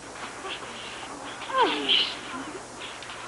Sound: grunting

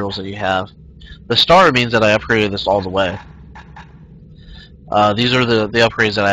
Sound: sigh

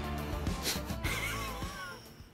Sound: laughs

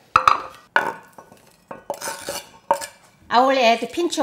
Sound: knife sweeping

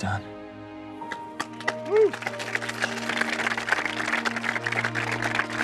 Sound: applause

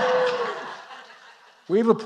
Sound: applause

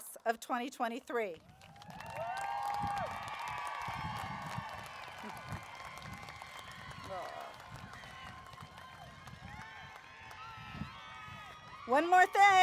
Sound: applause, Cheering

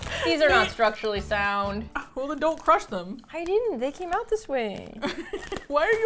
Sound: indignantly; laughs

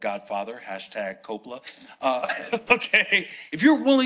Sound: laughs

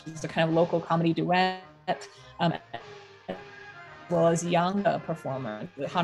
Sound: audio distortion

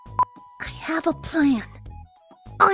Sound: whispers

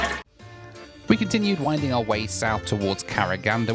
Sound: voiceover

